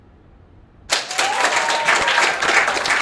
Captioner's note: cheering